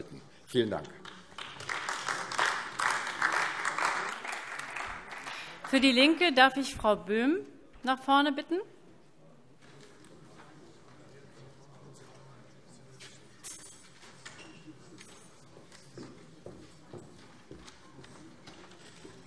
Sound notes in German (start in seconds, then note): 0.9 Beifall AfD